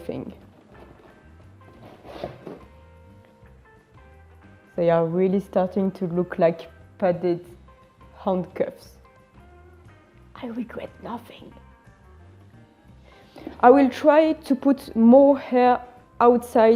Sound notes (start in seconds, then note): 9.6 whispering